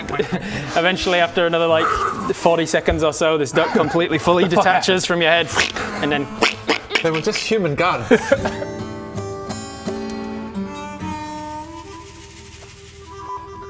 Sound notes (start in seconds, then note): 5.2 quack quack